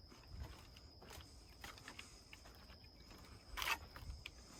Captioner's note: footsteps tapping